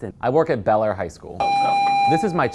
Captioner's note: tone